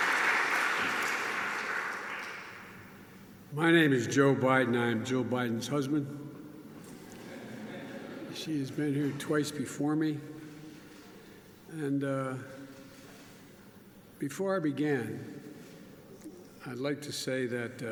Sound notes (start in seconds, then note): 7.1 laughter